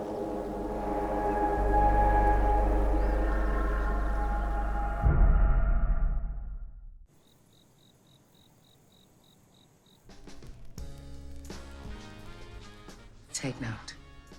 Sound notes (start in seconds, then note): 7.1 crickets chirping